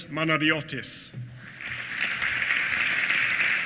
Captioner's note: applause